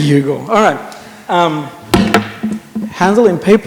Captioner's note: sound of clicker thudding on table